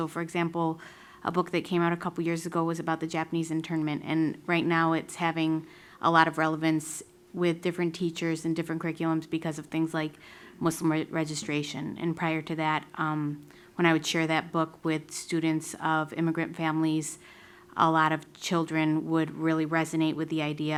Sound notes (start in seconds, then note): none